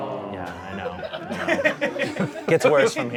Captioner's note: audience laughing